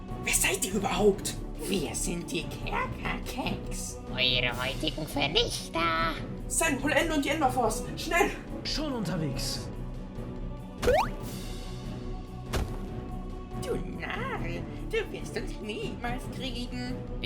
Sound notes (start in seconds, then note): 10.9 boing